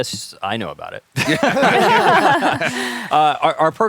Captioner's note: laughter